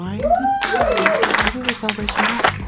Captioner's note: audience cheering and applauding